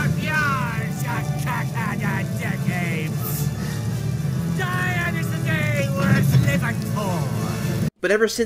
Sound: yelling unintelligible piratey gibberish

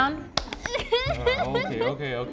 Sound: laughter

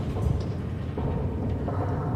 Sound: hollow echoing

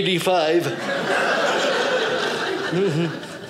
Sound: audience laughing

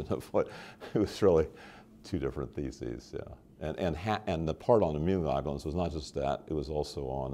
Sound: chuckle

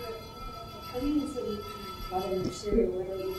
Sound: ringing

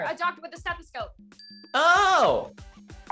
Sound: bell dings

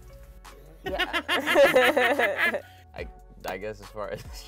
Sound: both laughing

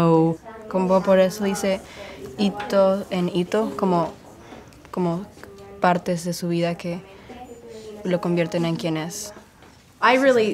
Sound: speaking Spanish

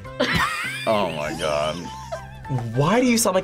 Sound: both laugh

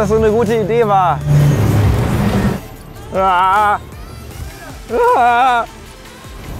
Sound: whining

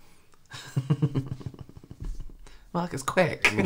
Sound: nervous Laughter

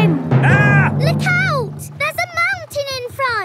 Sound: captain dog screams

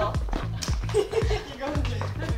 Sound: clap

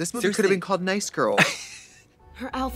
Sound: Katya wheezes

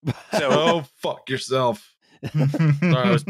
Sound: laughter

